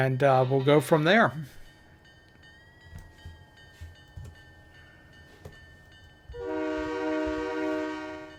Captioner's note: train whistle